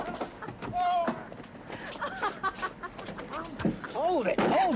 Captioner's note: girl laughing